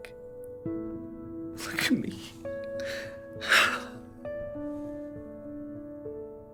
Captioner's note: crying